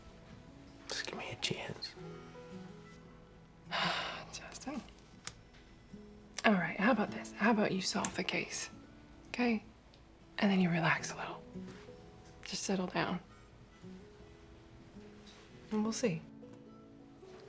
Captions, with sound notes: Just give me a chance. [SIGHS] Justin... All right, how about this. How about you solve the case, okay? And then you relax a little? Just settle down. Then we'll see.